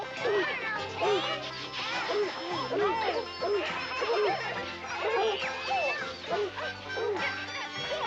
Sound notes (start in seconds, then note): 3.7 dogs barking